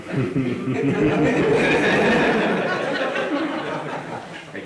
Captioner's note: audience laughing